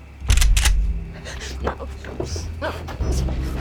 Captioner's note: shotgun clicks